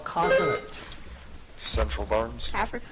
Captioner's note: buzzer chiming